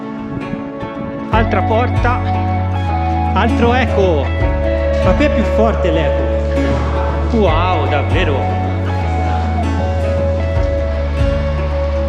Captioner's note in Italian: Applauso